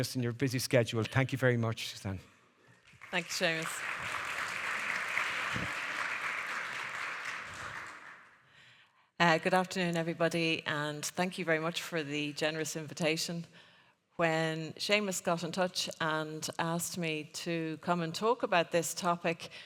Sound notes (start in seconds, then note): 2.9 audience applauding